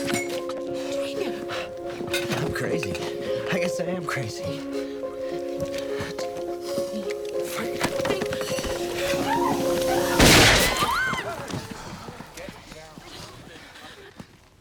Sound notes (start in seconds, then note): 10.1 gun firing; 10.8 screaming